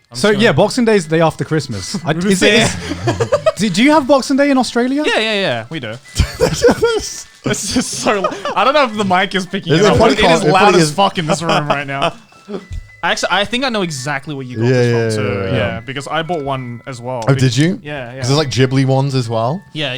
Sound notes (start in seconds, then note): 2.3 chuckling; 6.1 laughing